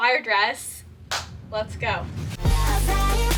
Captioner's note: hands clapping